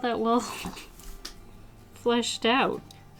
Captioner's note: laughs